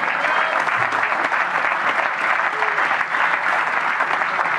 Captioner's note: applause